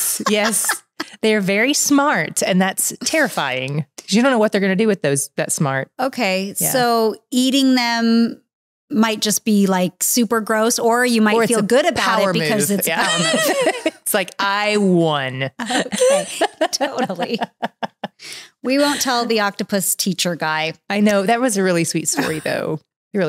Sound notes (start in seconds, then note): 12.9 both laughing; 15.6 both laughing